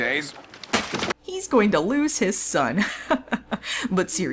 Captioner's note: chuckles